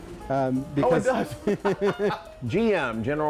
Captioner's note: laughing